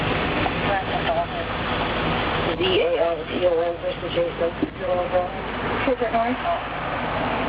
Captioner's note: police radio chatter